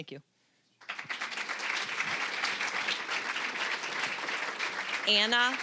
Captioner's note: applause